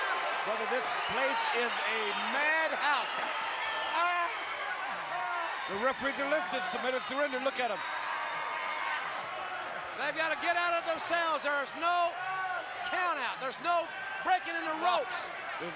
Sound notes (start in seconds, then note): 4.3 Flair screaming